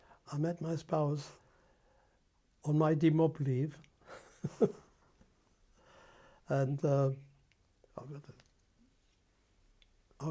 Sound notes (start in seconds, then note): 4.1 laughs